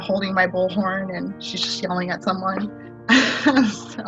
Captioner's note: laughs